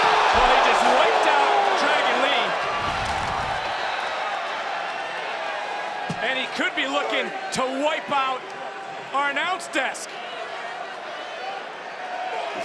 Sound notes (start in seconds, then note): 3.8 applause